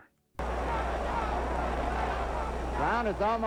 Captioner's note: crowd cheers